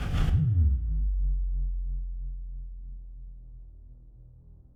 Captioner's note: suspenseful sound effect